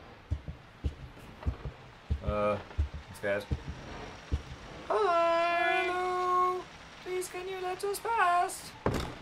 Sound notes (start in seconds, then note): 6.7 falsetto